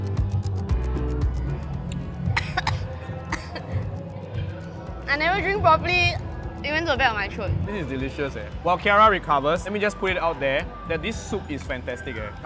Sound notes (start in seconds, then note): 2.3 cough cough